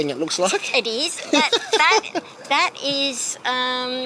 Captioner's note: laughs